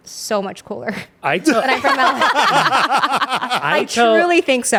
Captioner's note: everyone laughs